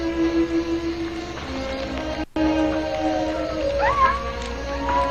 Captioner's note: coyotes yipping, howling